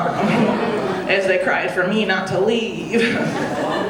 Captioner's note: audience laughing; chuckles